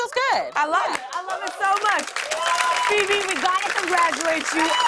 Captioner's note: cheers and applause